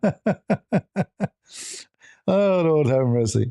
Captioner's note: ketawa